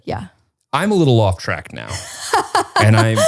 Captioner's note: laughs